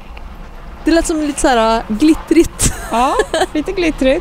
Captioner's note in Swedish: skratt